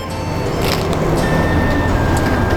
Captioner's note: crunch